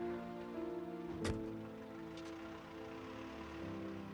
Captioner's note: car door closes